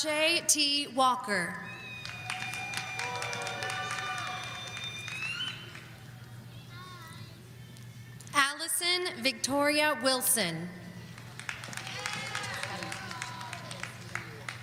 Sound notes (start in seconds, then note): 3.6 audience applauding